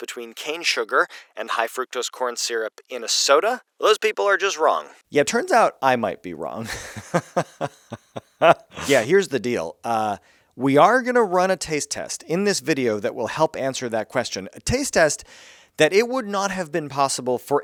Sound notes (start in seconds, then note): 6.6 laughs